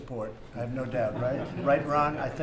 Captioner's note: laughter